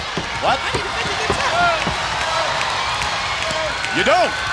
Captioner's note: crowd cheering